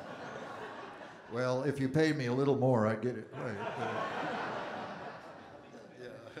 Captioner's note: audience Laughing; audience Laughing